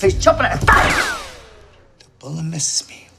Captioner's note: a gunshot echoes - music stops